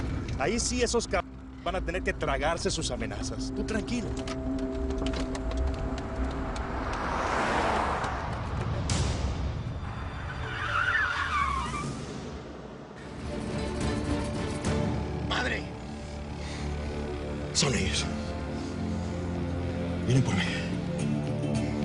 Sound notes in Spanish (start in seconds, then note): 9.6 Frenazo